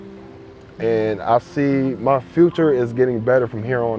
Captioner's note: none